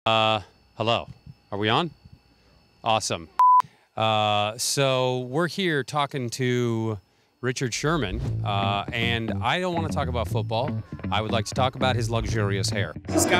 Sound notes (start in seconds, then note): 3.2 graphics beeping